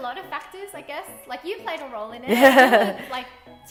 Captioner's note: laughing